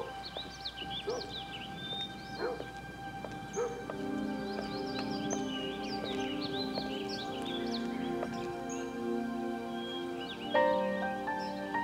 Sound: dog barking in distance

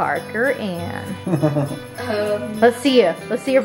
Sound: laughing

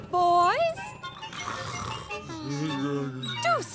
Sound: snoring

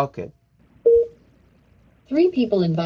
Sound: phone beeps

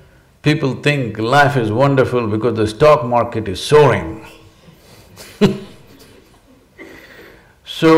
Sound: laughs

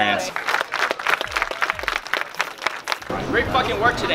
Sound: crowd Applause

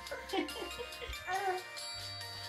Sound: laughing

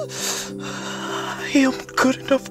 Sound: deep breath

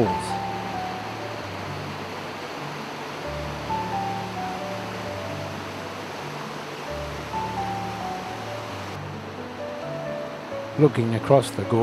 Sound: waterfall sounds and music background

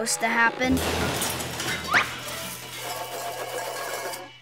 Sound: caravan crashing

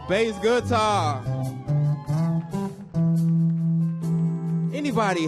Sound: audience cheering; bass guitar thrumming

